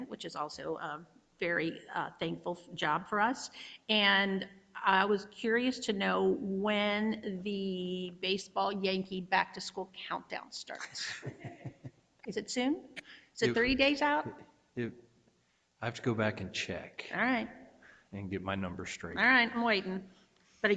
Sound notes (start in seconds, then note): 10.9 chuckles